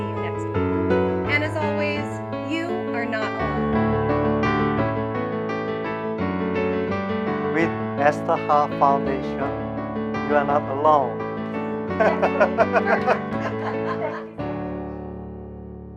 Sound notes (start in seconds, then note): 12.0 muffled giggling